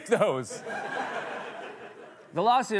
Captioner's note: laughter